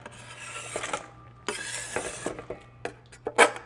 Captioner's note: knife scrapes again the cutting board